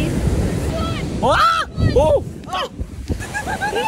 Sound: yelling

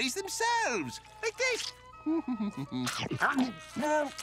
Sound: humming

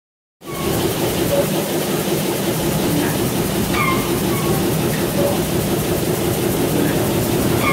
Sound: rhythmic engine purring with squeaks

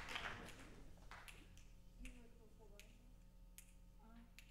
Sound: snaps

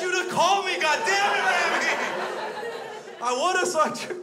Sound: crowd laughs

